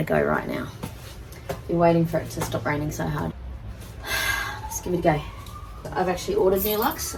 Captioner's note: sighs; siren in background